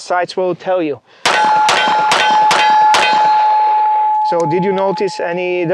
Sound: five successive gunshots

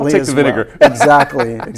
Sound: laughter

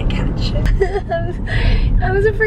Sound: laughs

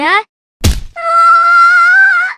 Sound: smack

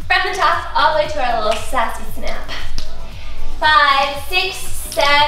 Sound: fingers snap

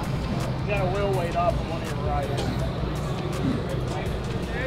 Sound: men chattering

